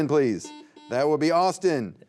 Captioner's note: buzzer beeping